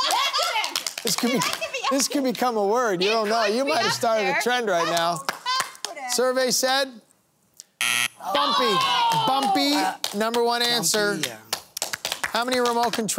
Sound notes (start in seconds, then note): 7.8 buzzer sounding